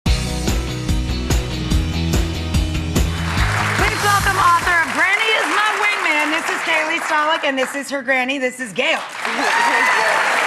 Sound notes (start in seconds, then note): 0.0 upbeat music; 3.0 applause